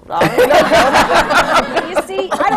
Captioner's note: laughter